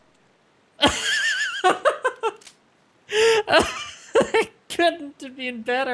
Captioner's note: baffled laughing